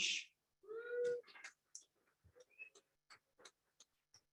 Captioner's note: audience appluades